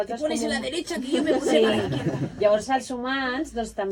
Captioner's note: laughing